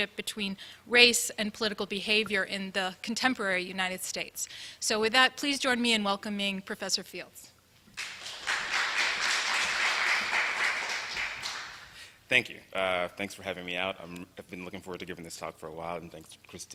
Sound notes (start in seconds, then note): 7.9 applause